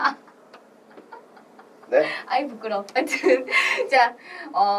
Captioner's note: laughs